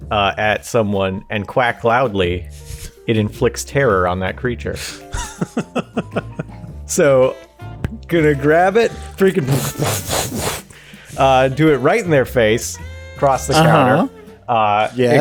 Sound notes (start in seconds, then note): 9.4 aggressive umbrella noises